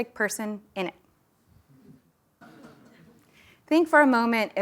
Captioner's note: laugh